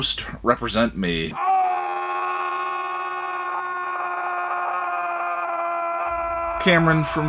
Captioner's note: long scream